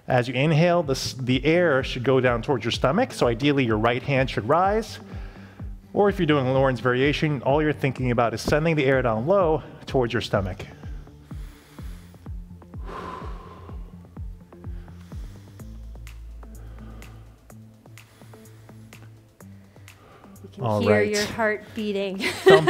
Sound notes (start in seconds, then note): 10.7 exhales; 12.1 upbeat music; 22.1 laughs